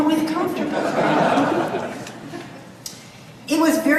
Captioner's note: audience laughs